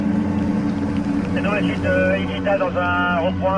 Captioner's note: man speaking foreign language over radio